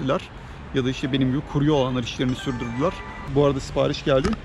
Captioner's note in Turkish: bi̇ldi̇ri̇m sesi̇